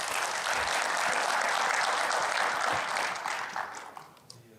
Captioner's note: audience claps